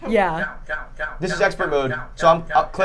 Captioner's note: computer repeatedly saying cow